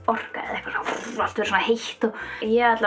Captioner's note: poof